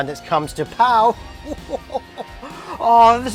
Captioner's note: chuckles